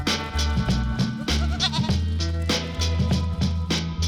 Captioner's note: bleating